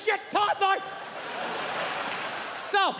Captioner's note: crowd laughs